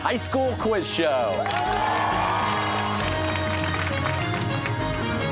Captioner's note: cheers and applause